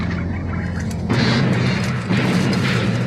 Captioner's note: crashing